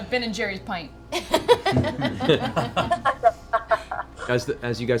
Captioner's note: laughter